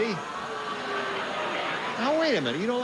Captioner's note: audience booing